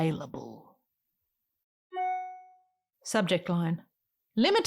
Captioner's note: email sound